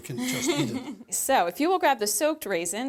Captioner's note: laughs